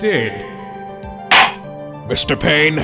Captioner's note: gavel slams!